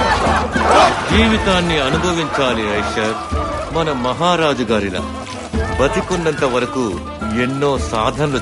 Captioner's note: laughing; chanting